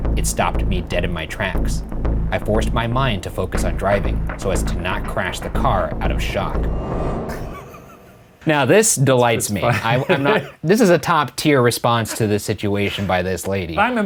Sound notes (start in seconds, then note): 7.7 laughing